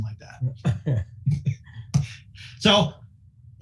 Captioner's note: laughing